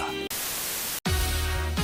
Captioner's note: TV Static